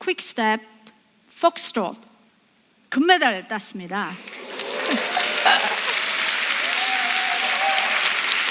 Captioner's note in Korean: 박수